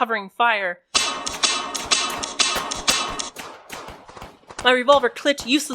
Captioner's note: more gunfire and a clicking revolver isolated and amplified also muffled screams